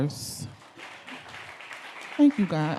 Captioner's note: audience clapping